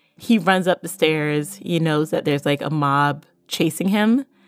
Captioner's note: none